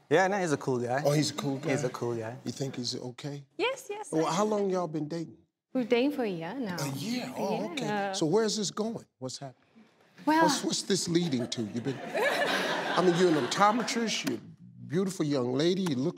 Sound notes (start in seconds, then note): 11.0 audience laughs